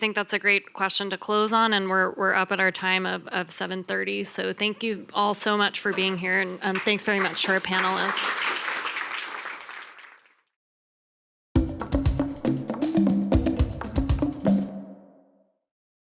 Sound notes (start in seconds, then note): 6.7 applause; 11.5 upbeat music